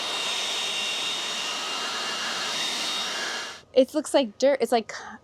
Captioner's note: blower buzzing continues